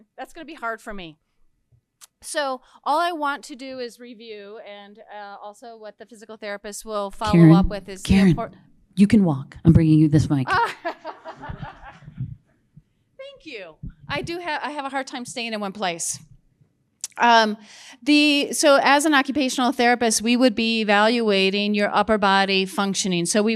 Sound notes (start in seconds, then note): 10.4 laughing; 10.6 audience laughing